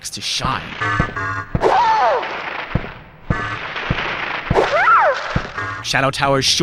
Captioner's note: impressive sound of plant monster being hurt